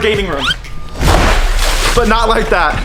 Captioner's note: water splashing